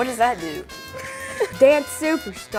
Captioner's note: laughs